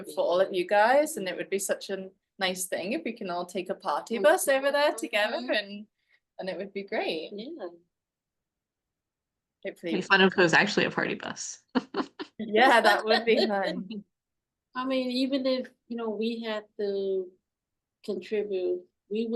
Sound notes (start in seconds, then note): 11.7 laughing; 11.8 laughs